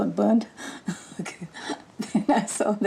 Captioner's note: laughs